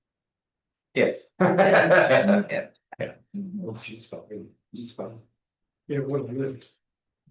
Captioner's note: laughs